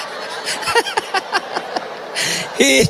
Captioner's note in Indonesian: tertawa